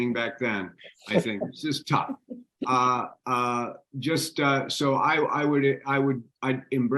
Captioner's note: laughing